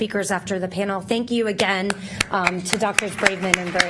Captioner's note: applause begins